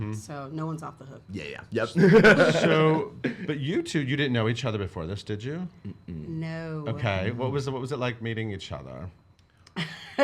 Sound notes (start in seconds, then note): 2.0 laughing